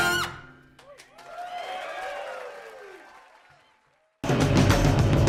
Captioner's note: applause